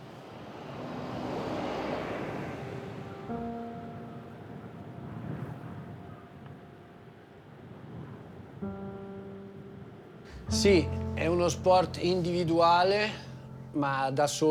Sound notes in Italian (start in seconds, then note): 3.4 musica rilassante; 3.4 vento che soffia; 10.6 parla in italiano